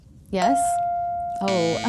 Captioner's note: chime pings; klaxon buzzes